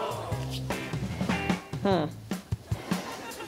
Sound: audience gasps

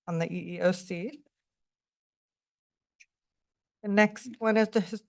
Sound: pause

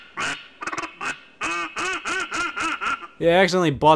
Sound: duck quacking

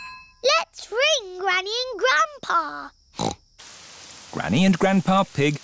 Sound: snorts

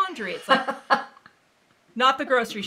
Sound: laughing

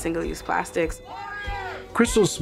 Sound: chanting

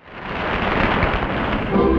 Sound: audience applauding

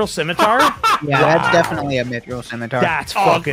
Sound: laughs

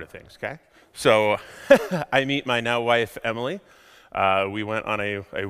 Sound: laughs

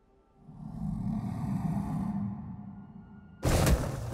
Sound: deep growl

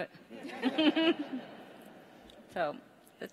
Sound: all laugh

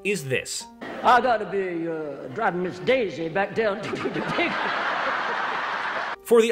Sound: audience laughter

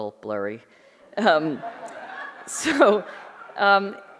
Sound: audience laughing

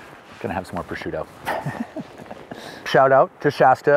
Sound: laughs

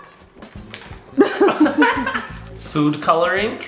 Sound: laughing

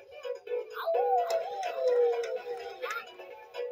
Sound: howls

